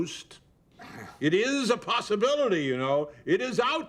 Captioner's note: groans